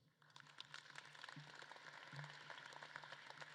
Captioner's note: audience claps